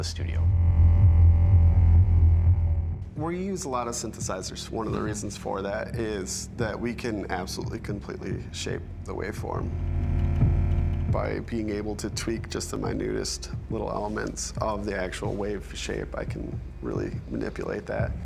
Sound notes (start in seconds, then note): 0.0 low descending tone; 9.4 monotone